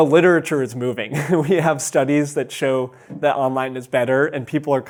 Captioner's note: chuckles